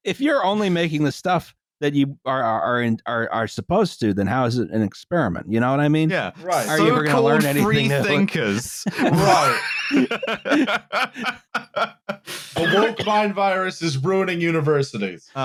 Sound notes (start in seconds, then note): 8.4 laughter